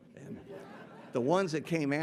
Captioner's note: audience laughing